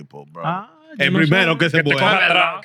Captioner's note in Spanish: Hablando en idioma extranjero